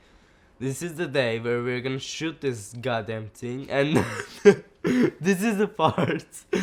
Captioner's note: laughs